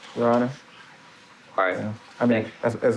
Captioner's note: speaking Spanish